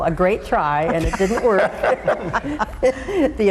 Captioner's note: all laughing